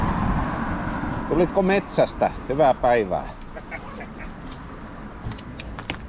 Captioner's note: laughter